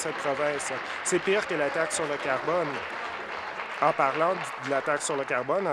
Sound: applause

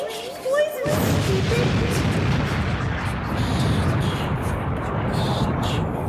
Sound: explosion; whispers

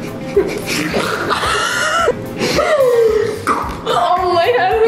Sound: gagging noise

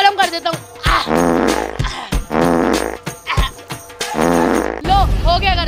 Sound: farting

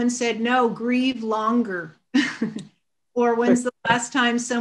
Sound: chuckles

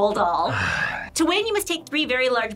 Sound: sighs

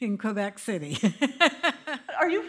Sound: laughter

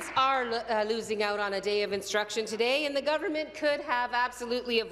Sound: applause

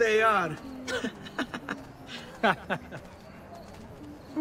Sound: laughter

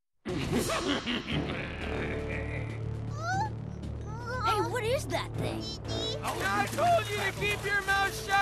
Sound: evil laughing

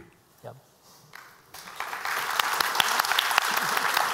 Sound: applause

